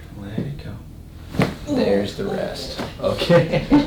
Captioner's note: cracking noise; laughs; patient laughing